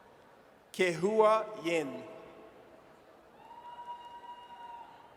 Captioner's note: audience cheers